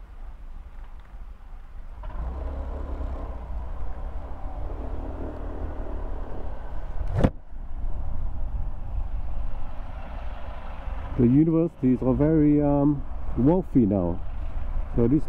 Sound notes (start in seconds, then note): 5.1 door closing